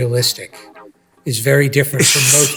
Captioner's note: Tom laughing